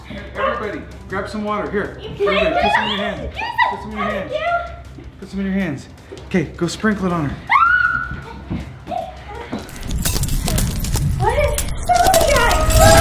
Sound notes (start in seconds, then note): 7.4 screaming; 9.7 cracking